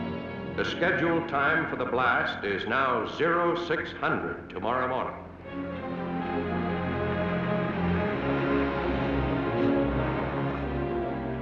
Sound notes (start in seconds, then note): none